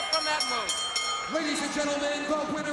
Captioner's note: bell ringing